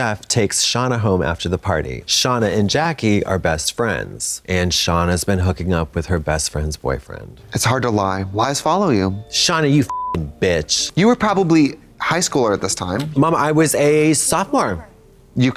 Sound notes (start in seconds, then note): 9.8 beep